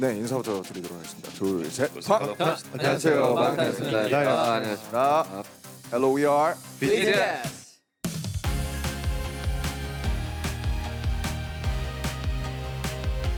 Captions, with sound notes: [speaking Korean] Hello, we are BTS. (upbeat music)